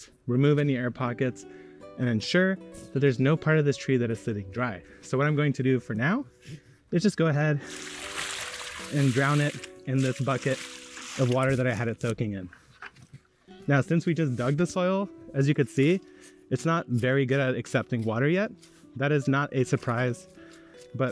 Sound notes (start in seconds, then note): 7.6 water splashing; 7.7 water burbling